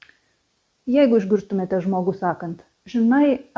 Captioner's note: in emigrant accent